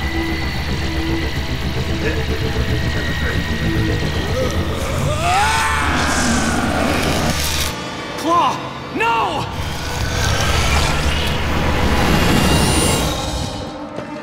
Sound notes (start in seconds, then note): 1.6 sound waves